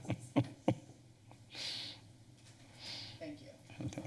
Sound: laughter

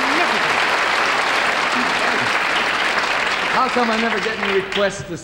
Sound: applause

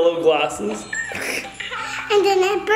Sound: baby cooing

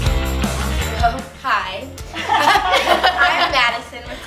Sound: others laugh

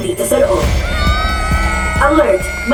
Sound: robotic voice; kids scream; robotic voice

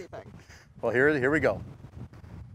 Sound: laughs

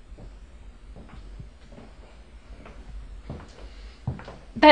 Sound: footsteps

